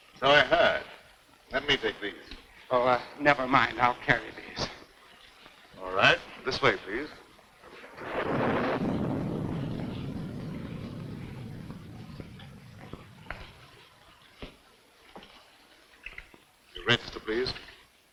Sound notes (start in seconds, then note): 7.6 thunder rumbling